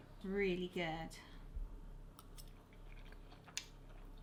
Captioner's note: chewing